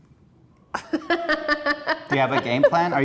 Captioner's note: laughs